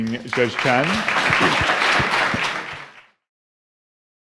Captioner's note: applause